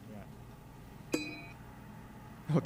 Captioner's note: game beeping